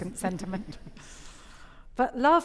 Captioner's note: audience chuckling